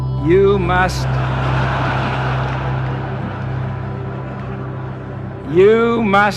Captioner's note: crowd laughter